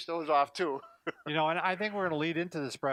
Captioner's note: laughing